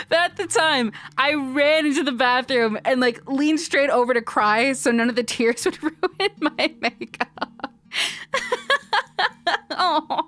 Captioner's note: laughing